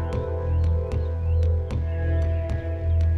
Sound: birds chirping

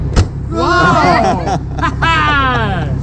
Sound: laughter

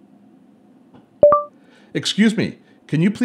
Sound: chiming

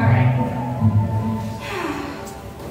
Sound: sighs

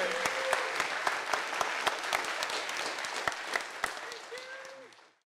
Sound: applause

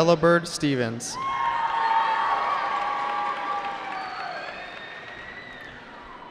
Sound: cheering

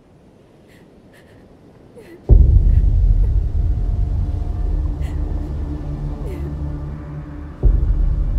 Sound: crying

